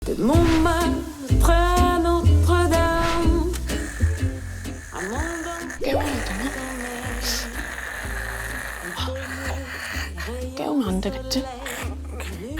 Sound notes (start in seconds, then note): 4.0 Snoring echoing throughout the entire Teunteun Motel; 5.7 in a troubled voice